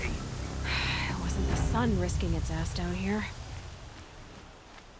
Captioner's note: sigh